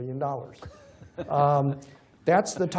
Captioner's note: laughter